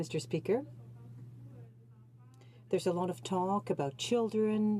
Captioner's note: speaking French